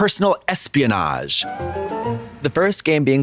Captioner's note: whimsical chime